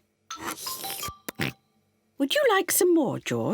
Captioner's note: slurps